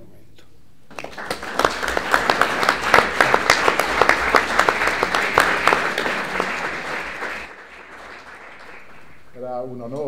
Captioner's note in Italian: applausi